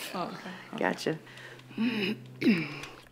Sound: nervous laugh; Liz clears her throat

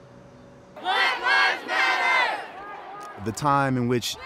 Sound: people chanting

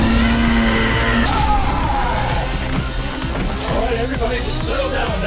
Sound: Azalla shrieking; fireball roars; Max yells

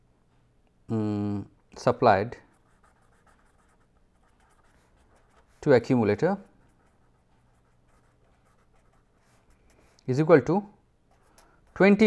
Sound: air conditioning

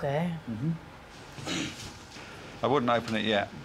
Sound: Munya clears throat

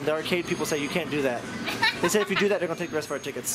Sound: laughing

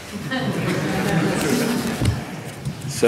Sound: laughter

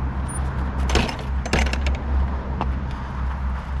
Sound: sound traffic and gate closing

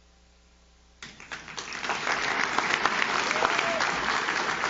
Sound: audience claps

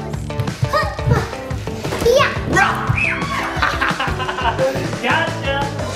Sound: screams; yells

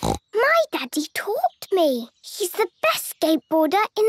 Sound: snorts

